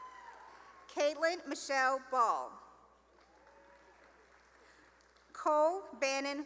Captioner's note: cheering and applause; cheering and applause; cheering and applause